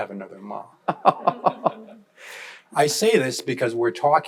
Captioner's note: panelists laughing